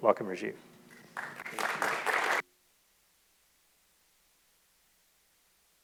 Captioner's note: audience applauding